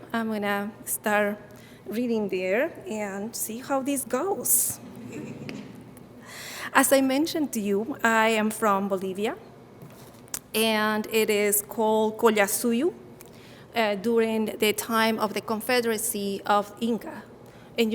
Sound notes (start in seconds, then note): 4.8 audience giggling